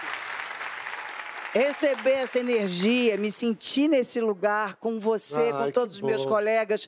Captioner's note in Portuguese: aplausos